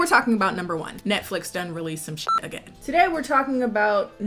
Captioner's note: beep